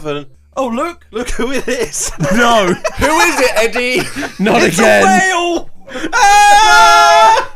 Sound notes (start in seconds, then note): 1.6 all laughs; 5.7 all shouts